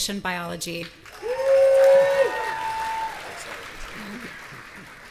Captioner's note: audience cheering